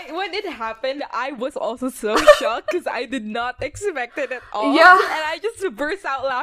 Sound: laughs

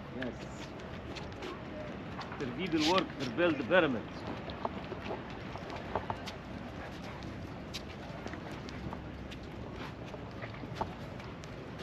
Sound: speaking in foreign language

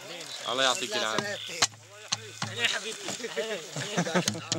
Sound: Arabic spoken audio

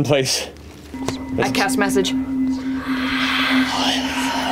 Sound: creepily breathes out; the cast join in on the whispers

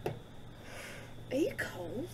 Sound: sighs

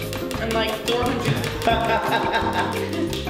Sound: laughs

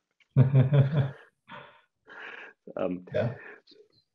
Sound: chuckles

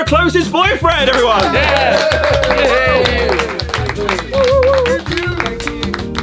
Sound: lively upbeat music; all cheering and clapping

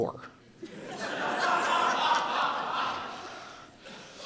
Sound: audience laughing

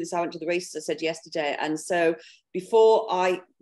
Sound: speaking faintly

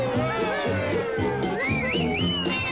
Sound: toy whistles

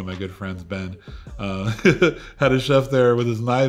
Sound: laughs

